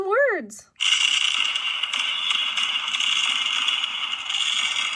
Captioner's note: fireworks bang